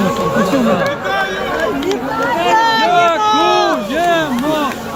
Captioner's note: people shout "Thank you" and "Congratulations"